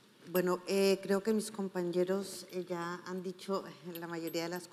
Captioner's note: speaking in foreign language